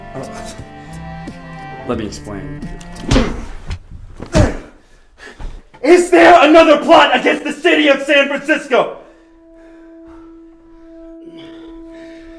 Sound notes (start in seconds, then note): 3.0 punches and kicks